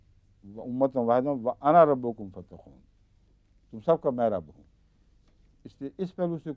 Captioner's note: Arabic